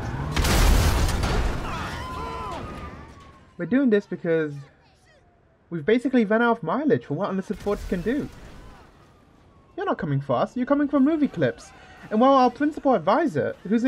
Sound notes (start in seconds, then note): 0.3 explosion; 1.6 screaming